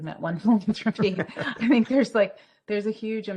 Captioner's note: both laugh